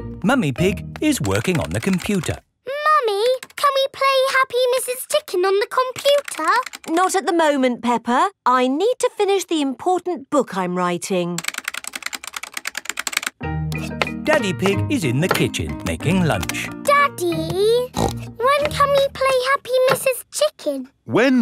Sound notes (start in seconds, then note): 17.8 snorts